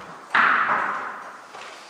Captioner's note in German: Klappern